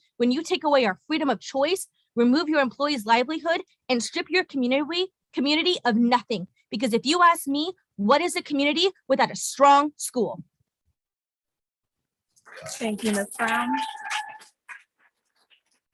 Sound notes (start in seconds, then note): 13.3 audience cheering